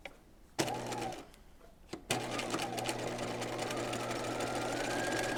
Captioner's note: sewing machine whirs